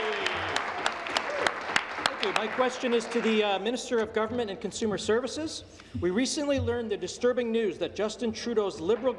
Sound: applause

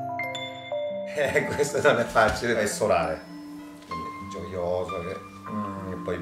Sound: laughing

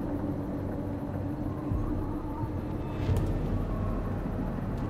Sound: wind whistling

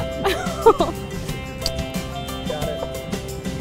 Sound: female laughter; kissing

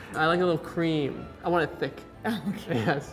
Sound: laughs

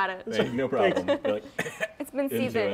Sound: coughs

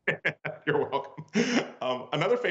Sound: laughter

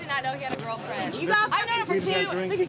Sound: arguing

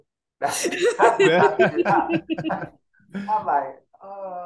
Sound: group laughs

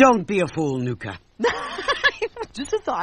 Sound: Nuka's laugh

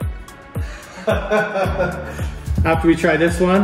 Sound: laughs

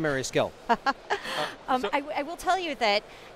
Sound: laughing

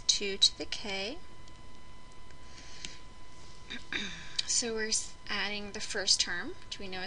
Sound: cough

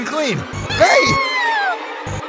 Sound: screams

